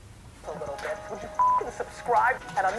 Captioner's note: voiceover